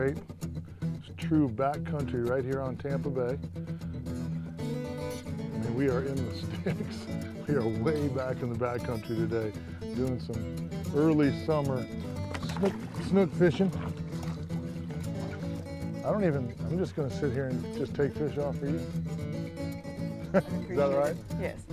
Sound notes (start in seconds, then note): 11.7 splashing